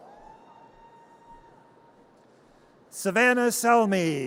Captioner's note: audience cheers